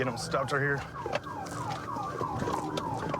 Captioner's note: sirens blaring